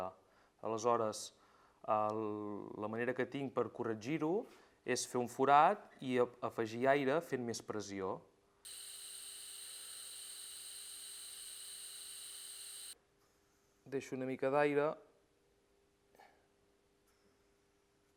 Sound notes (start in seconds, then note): 8.6 sound of an air compressor